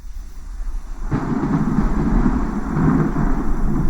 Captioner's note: thunder roaring